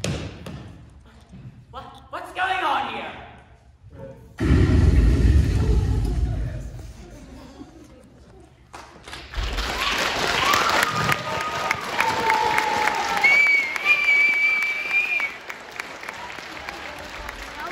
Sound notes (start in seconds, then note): 4.4 explosion sound